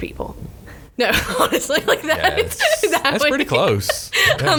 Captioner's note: laughs